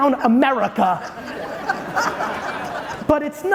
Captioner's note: audience laughing